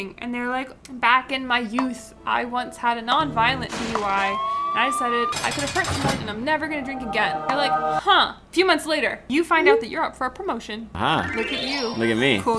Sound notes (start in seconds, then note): 3.1 siren wailing; 3.6 sound of crash